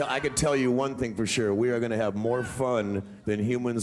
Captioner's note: audience cheering